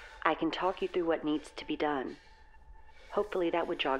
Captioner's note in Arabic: none